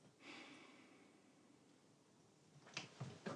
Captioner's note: sighs